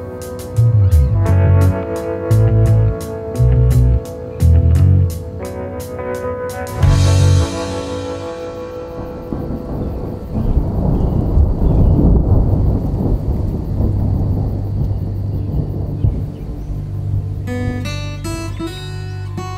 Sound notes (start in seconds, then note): 3.7 wind blowing; 15.5 upbeat music